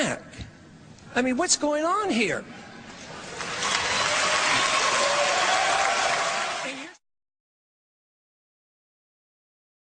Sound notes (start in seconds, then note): 3.2 cheers and applause